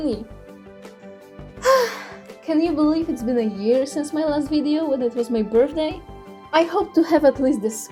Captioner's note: sigh